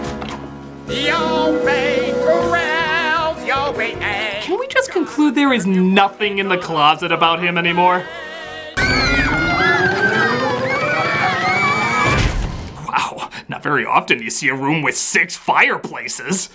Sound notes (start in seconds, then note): 8.7 screaming; 12.1 smack